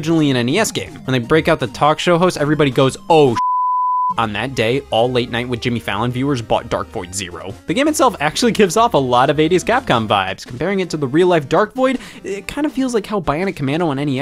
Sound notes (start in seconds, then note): 3.3 beep